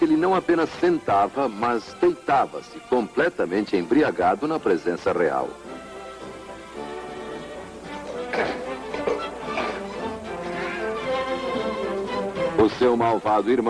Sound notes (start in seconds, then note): 7.9 belches; 9.7 laughs